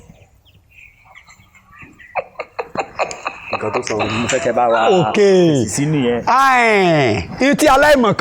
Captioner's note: laughter